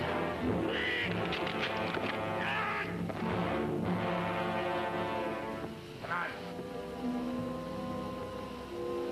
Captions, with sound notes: Fellas! Nick! (ground cracks) Ah! (tense music) - Come on.